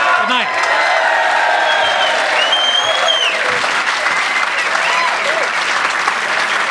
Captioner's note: audience cheers; audience claps